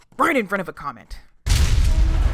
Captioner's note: SFX: rock collision with transmitter—sound of protesting metal